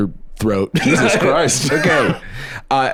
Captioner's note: laughs